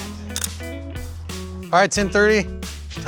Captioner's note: camera snapping; upbeat rock music